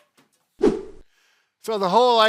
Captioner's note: air whooshes